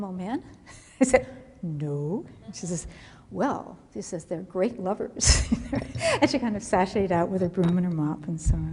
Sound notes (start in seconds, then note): 5.2 laughter